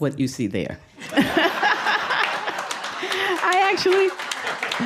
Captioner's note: audience laughing